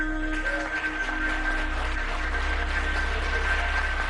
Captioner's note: clapping